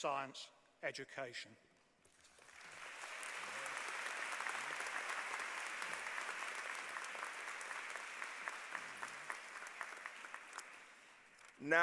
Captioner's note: applause